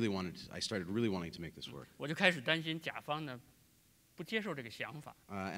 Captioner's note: speaking in Chinese; speaking in Chinese